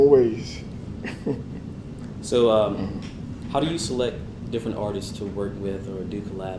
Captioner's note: laugh